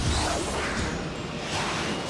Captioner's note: jets whir